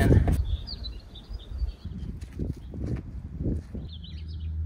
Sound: birds chirping

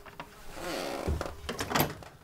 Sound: creaking

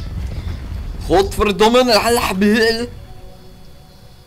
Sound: arabic impression

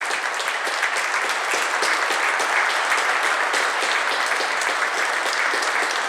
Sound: applause

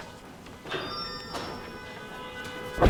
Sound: cars honking; microphone blowing

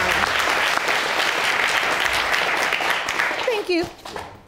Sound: audience applauding

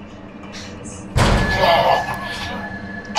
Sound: room creaking; loud bang

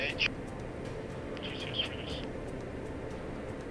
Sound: radio Chatter

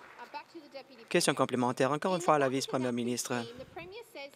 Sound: applause

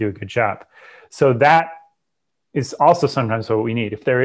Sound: breath

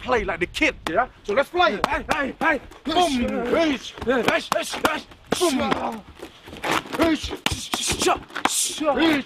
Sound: fighting noises

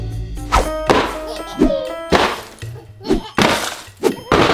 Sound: boxes thudding

